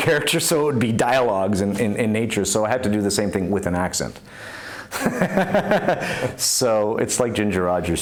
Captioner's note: laughs